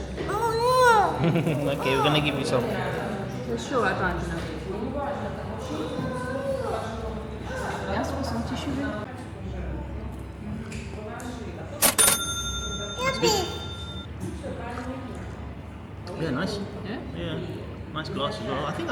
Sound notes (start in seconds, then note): 0.8 laughing; 11.8 cash register dinging